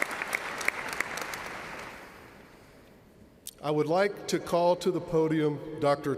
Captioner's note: cheers and applause